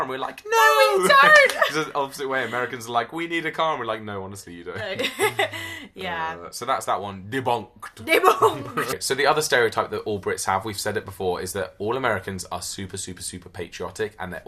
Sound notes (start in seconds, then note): 4.8 laughs loudly